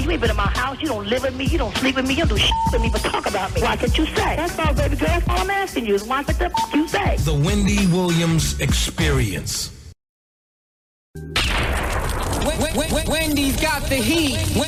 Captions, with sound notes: You even in my house, you don't live with me. You don't sleep with me. You don't do (beep) with me, but talk about me. Why can't you say? That's not a bad thing, girl. I'm asking you, why the (beep) you say? The Wendy Williams experience. Wendy's got the heat.